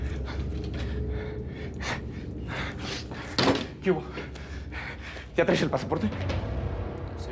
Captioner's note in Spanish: respiración agitada